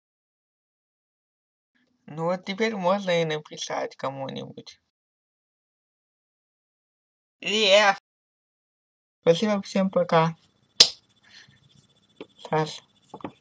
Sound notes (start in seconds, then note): 10.6 claps